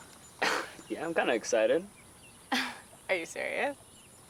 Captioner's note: chuckles